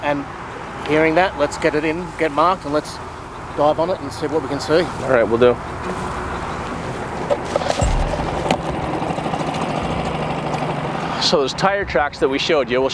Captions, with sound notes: And hearing that, let's get it in, get marked, and let's dive under and see what we can see. - Alright. Will do. (dramatic music) (boat engine droning) So those tire tracks that we showed you,